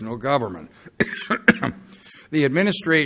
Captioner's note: coughing